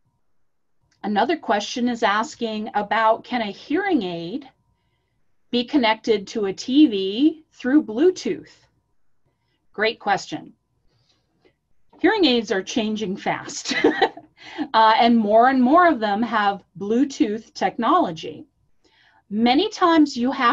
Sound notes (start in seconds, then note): 13.6 chuckles